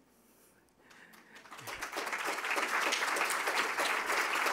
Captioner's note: applause